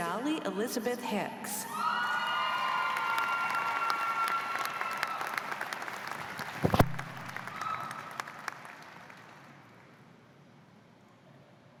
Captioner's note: cheers and applause